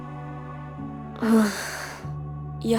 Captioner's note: sigh